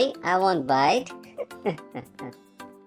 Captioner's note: haha